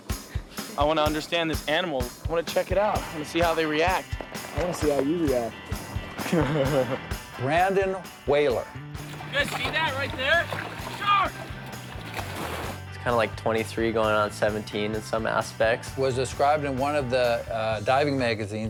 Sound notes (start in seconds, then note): 6.2 laughs